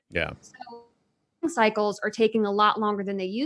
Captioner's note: audio distorted